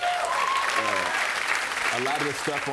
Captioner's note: cheers and applause